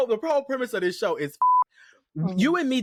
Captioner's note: beep